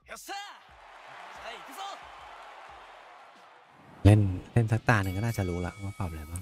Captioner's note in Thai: ปรบมือ